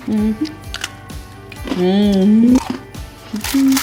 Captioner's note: humming